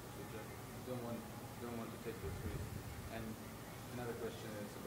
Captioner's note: speaking away from mic